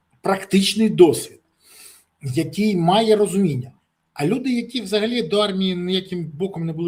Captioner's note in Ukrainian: сопіння